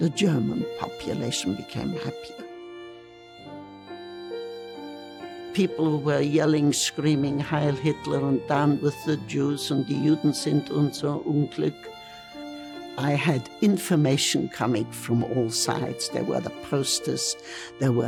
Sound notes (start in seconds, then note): 2.5 gentle music; 9.3 speaking in foreign language